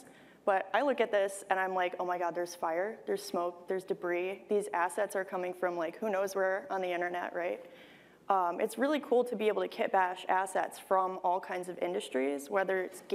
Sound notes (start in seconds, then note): none